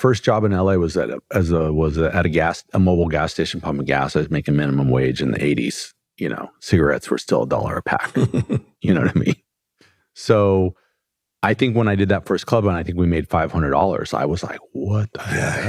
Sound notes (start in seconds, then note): 8.0 laughter